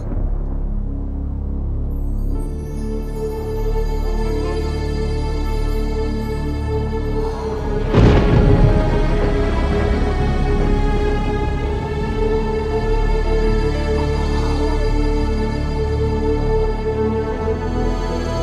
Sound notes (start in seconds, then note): 0.2 stressful music; 7.6 thunder claps; 9.7 stressful music